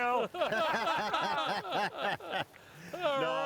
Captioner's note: laughing